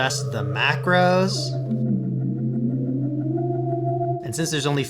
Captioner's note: spooky ghost-like tone